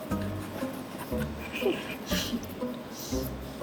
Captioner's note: cracking up